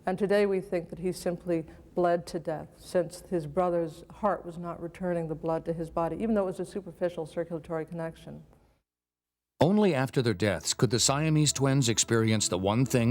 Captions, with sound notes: and today we think that he simply bled to death since his brother's heart was not returning the blood to his body, even though it was a superficial circulatory connection. - [Voiceover] Only after their deaths could the Siamese twins experience the one thing